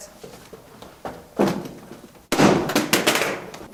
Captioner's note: crashes